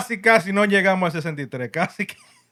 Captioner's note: speaking Spanish